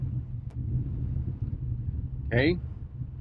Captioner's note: engine whirring